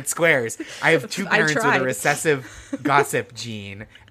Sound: laughing

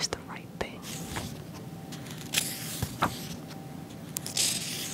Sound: pages turning

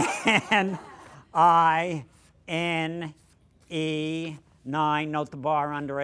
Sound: laughter

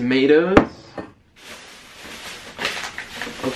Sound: plastic crinkling

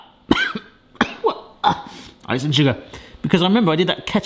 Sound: coughs and splutters

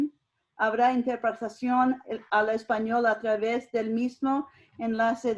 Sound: speaking foreign language

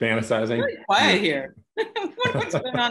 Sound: laughter

